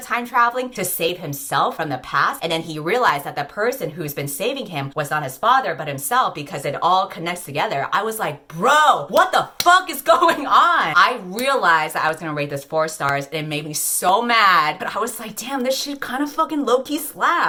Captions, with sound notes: time-traveling to save himself from the past, and then he realized that the person who's been saving him was not his father but himself, because it all connects together. I was like, "Bro, what [clap] the fuck [clap] is going [laugh] going on?" I realized that I was gonna rate this four stars, and it made me so mad But I was like, "Damn, this she's kind of fucking low key slaps."